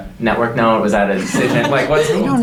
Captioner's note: everyone laughing